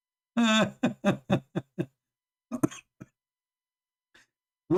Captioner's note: Ketawa